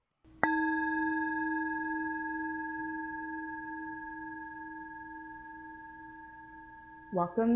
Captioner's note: chime